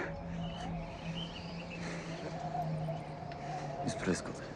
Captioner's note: wind whistling